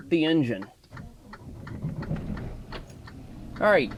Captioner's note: truck engine revving